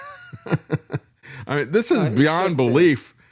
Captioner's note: laughing